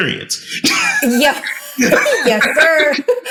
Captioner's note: laughing